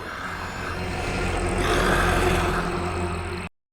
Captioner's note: growling